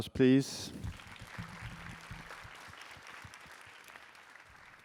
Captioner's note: applause